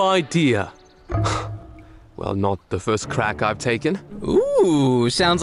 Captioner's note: sighs